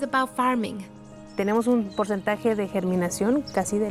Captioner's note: speaking Spanish